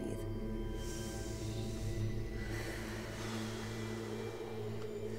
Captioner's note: inhaling and exhaling